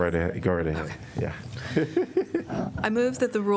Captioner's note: laughter